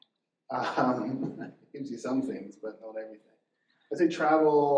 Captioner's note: chuckles